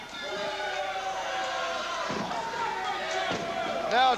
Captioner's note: crowd cheering